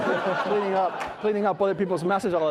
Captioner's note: all laughing